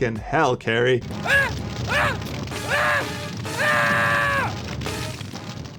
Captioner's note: agonized screaming